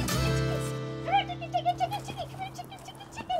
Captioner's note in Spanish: imita cacareo